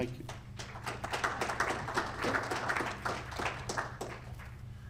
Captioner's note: audience applauding